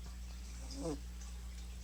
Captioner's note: snore